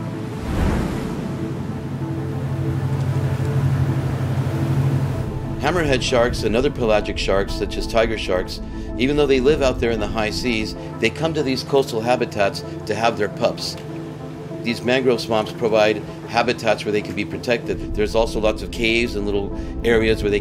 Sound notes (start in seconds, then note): 0.1 light music; 3.3 engine humming